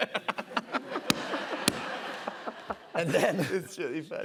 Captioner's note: laughter